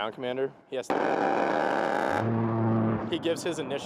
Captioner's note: roaring gunfire